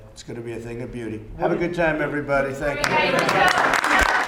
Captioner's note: applause